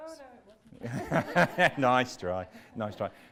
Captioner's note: laughing